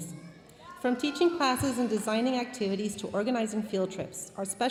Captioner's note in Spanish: hablando en inglés